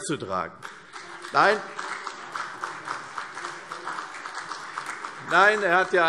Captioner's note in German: Beifall CDU